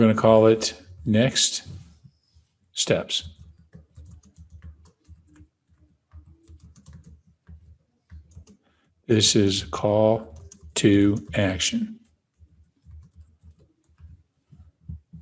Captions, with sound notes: next steps. (keys clicking) This is, Call To Action.